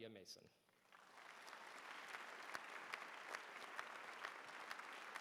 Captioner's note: applause